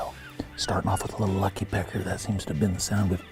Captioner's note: coyote calls